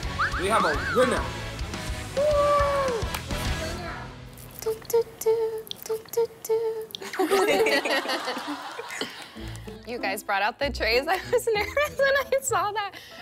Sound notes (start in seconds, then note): 6.2 they are laughing at the familiar soundtrack